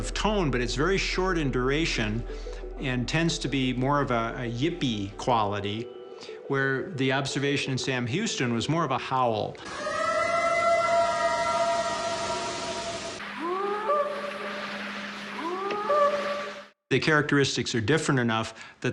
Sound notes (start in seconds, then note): 9.6 eerie howl; 13.2 short howls